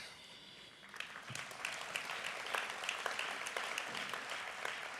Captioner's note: applause